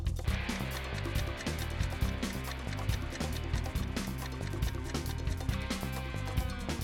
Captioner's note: clock ticking